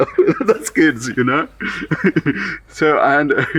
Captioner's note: laughs